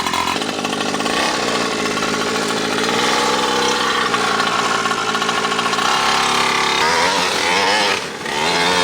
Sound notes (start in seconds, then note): 0.0 engine roaring loudly